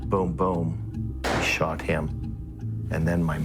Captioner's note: gun firing